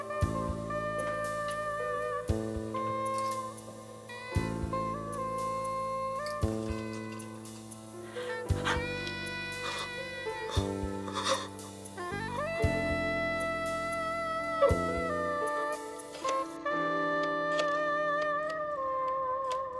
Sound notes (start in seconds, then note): 9.1 person weeping; 16.8 somber music